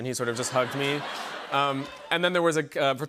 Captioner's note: laughter